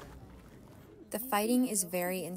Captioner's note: through translator